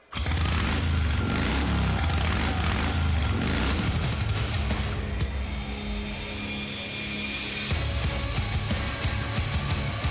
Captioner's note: engine revving